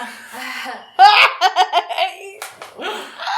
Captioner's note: laughs